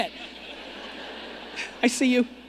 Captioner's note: audience laughing